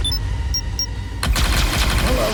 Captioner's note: gunshots